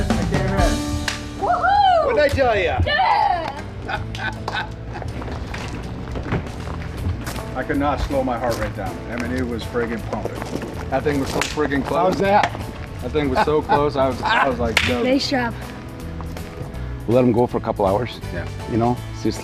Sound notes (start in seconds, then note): 3.8 laughter